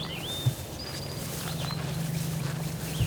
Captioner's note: birds chirping